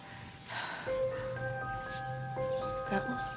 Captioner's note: Beth takes deep breath